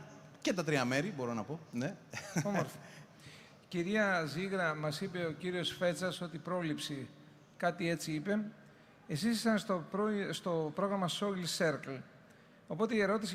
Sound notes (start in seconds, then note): 2.2 laughs